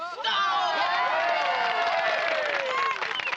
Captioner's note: cheering